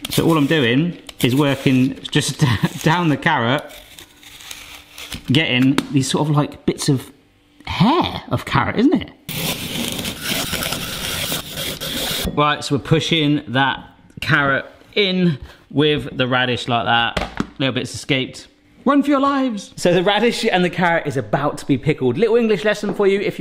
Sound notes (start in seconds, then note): 9.3 peeler grating